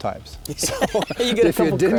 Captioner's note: laughs